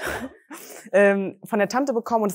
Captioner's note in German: Gelächter